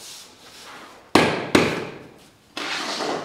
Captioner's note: knock